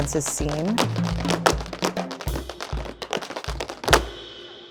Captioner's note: shoes tapping